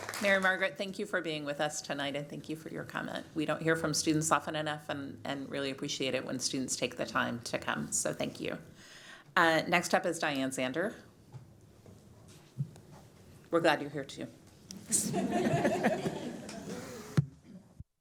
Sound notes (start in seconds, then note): 0.0 applause